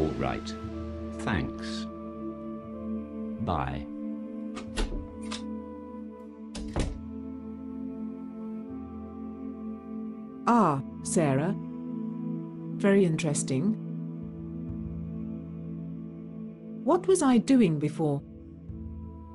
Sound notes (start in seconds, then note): 4.7 leaves - door slams